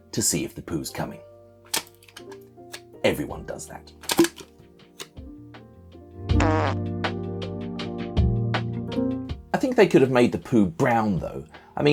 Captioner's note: pop!